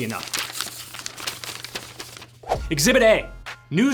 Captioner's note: papers rustling